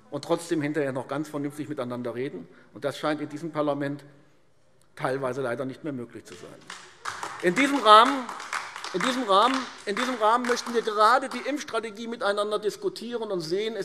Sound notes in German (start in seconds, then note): 6.3 Beifall AfD